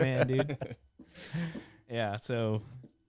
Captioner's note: laughs